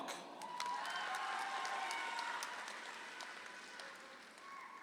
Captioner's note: audience applauds